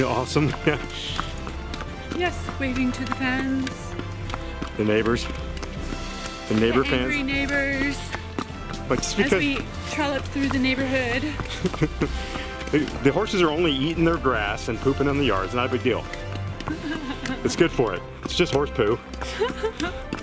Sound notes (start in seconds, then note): 11.4 chuckling